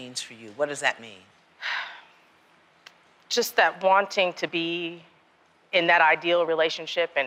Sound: exhales

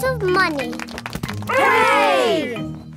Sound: crowd applauding

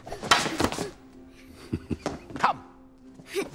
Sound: Ned chuckles

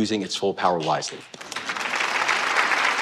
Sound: applause

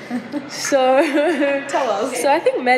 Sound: chuckles

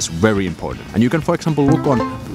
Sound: ding

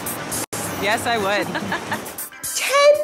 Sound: laughter

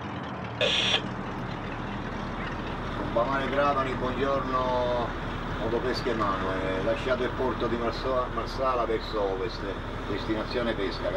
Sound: radio communication

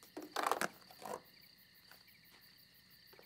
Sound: ripping noise

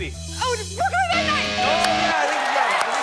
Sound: buzzer sounds; bell dings

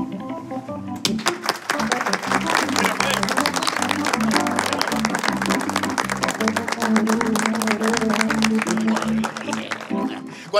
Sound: applause

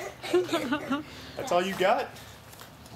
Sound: giggles

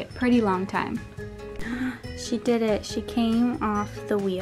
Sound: gasp

